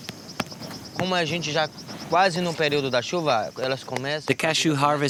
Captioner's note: Brazilian spoken audio